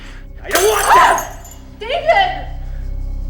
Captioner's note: Victoria screaming